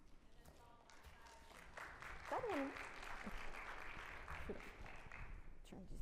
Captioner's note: audience applauding